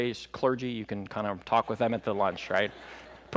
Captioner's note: laughter